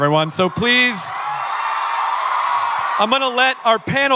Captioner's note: audience cheering